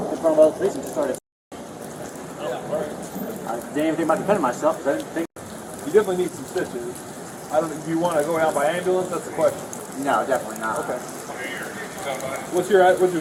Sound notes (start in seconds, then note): 10.3 radio chatter